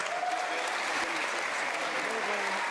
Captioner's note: applause